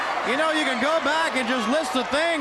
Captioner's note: crowd cheering